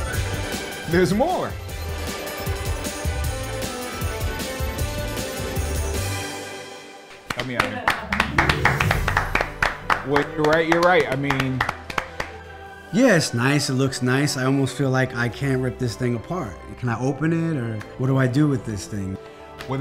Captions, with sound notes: - There's more. (upbeat instrumental music) (applause) You're right, I mean. - Yeah, it's nice, it looks nice. I almost feel like I can't rip this thing apart. Can I open it or what do I do with this thing?